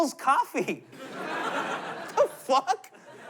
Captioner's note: laughter